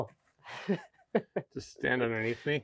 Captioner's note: speaker laughing